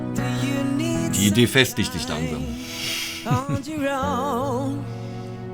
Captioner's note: laughter